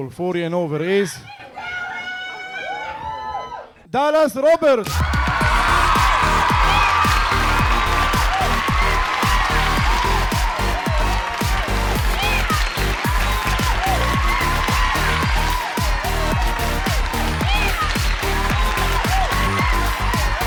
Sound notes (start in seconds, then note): 3.7 audience cheering; 5.9 audience cheering; 5.9 upbeat music